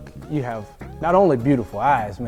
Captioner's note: laughing